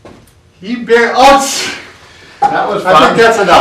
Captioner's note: laughs